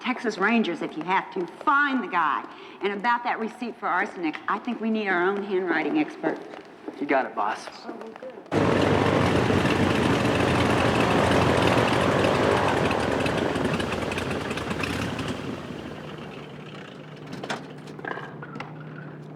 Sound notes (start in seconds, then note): 8.0 engines running